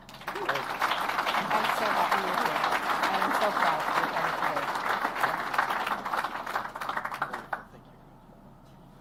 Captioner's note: applause